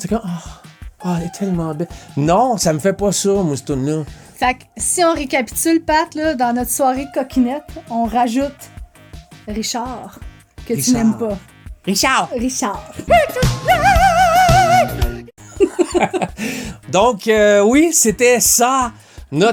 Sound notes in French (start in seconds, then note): 15.4 rires